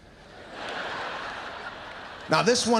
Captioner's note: audience laughs